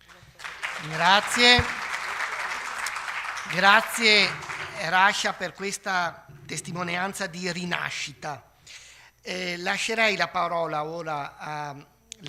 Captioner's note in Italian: Applauso